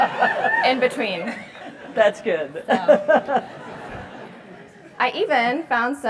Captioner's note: laugh